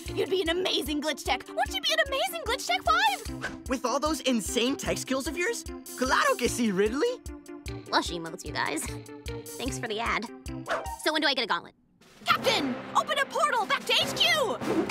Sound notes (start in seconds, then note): 6.0 speaking Spanish; 7.9 in English